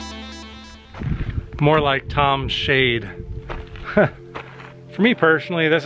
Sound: laugh

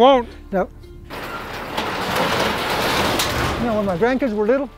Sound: garage door screeching

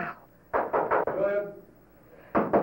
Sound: knocking

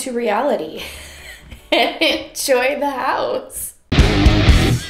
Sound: laughing

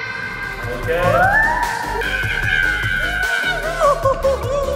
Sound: screams

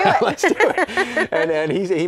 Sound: laughter

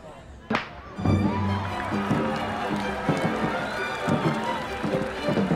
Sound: wooden clapper sounds; cheering, applause

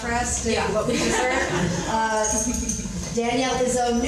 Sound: crowd laughs

